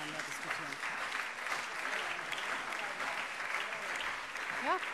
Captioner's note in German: Beifall - Zurufe